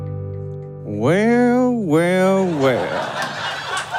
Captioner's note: thick Western accent; audience laughs uproariously, scattered applause